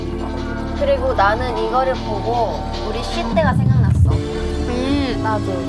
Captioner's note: Shhh